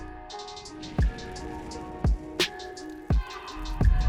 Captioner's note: cigar burning